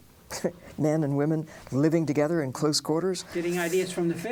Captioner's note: laughs